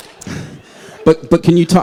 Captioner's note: laughter